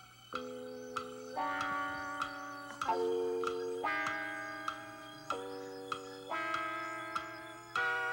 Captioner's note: clock ticking